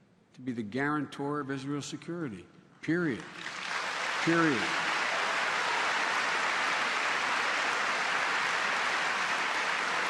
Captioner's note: applause